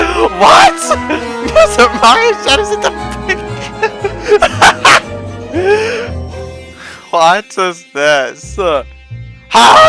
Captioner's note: laughing